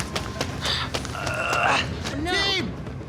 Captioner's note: groaning